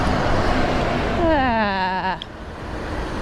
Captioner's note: nervous